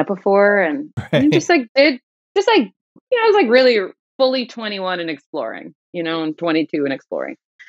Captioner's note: laughter